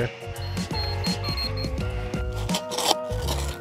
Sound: level pinging

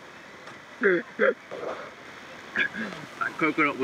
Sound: laughing

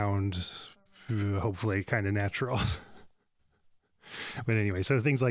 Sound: laughs

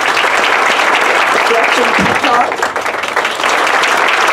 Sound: applause

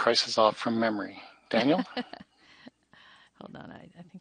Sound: laughs

